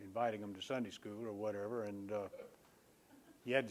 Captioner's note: laughter